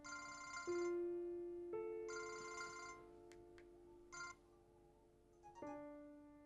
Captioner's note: gentle music; phone ringing; phone chimes